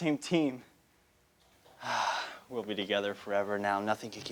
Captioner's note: sigh